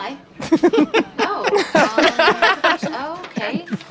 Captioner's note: laughter